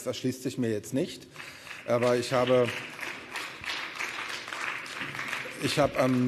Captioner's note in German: Beifall